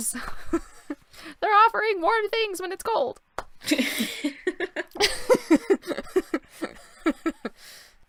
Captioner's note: laughter